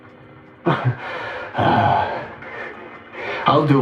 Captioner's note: takes deep breath